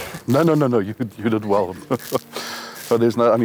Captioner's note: laughing